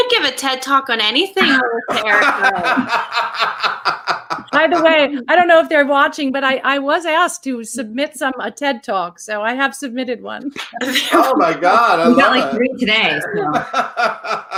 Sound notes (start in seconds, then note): 1.4 laughing